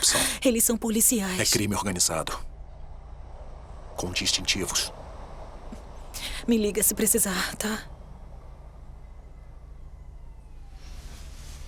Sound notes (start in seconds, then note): 8.2 siren wailing in the distance